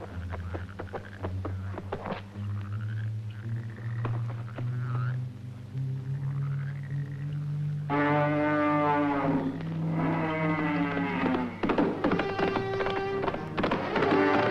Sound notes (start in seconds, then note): 8.3 bull roaring; 11.7 suspenseful orchestral music